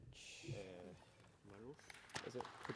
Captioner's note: applause